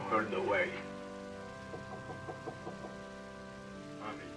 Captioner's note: knocking at door